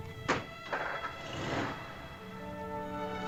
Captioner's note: engine revs; instrumental music